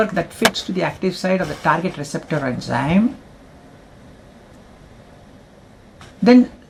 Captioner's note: bump